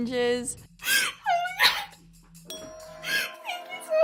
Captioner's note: crying